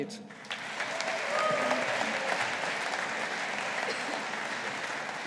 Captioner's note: audience applauding